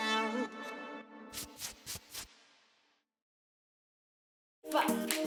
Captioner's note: upbeat music; brush strokes